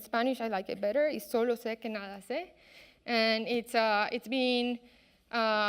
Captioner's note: speaking in a foreign language